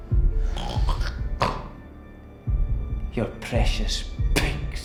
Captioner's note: snorting